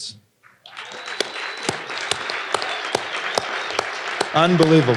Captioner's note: audience applauding